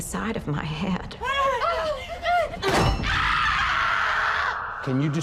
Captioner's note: screaming